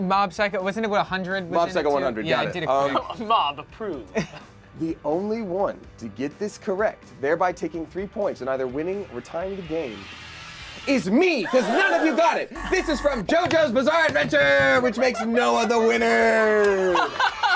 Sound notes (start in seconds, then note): 11.4 buzzer buzzes